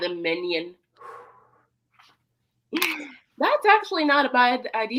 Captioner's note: Luke exhales